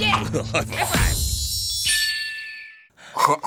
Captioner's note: distant cry of a red-tailed hawk; gagging throatily